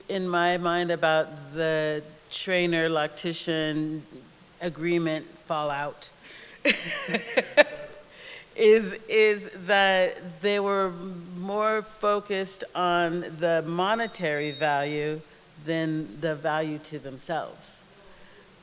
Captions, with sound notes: in my mind about the trainer loctician agreement fallout-- [LAUGHS] is that there were more focused on the monetary value than the value to themselves.